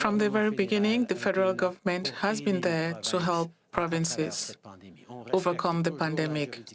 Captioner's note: speaking French